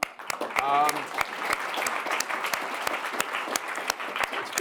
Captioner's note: audience applauds